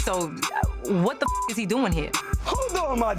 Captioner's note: beep